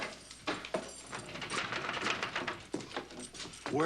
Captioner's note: door rattling